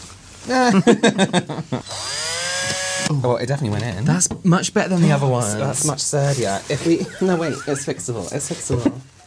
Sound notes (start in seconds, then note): 0.7 nervous Laughter